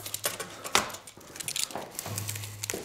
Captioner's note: rattling